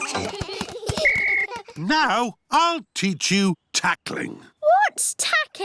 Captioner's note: blows whistle